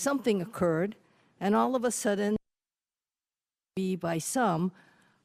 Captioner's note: sound cuts out